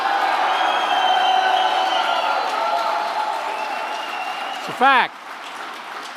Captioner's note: applause